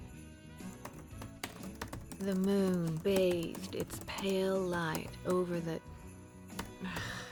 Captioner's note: typing resumes; typing